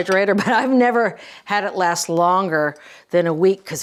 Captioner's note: laughing